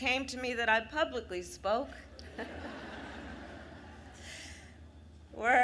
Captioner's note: laughter